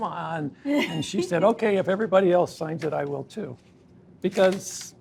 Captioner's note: laughs